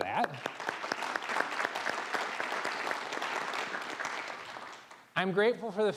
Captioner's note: applause